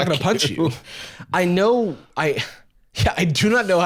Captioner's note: sighs